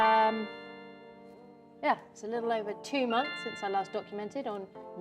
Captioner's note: notification sound